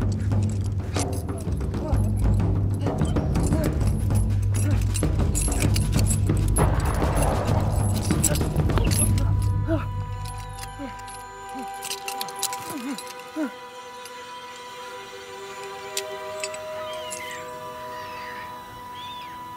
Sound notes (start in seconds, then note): 6.5 distant gun shot